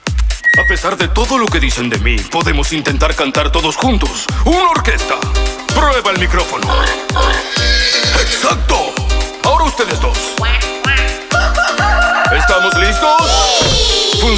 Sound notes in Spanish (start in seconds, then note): 0.2 Música alegre; 6.4 Sonido Cerdo y caballo; 11.3 Sonido pato y gallo